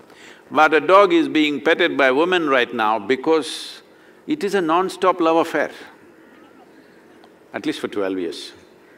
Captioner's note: laughter